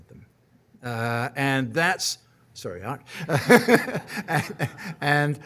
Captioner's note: laughing